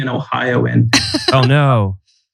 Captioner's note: laughs